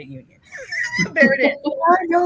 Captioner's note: chuckles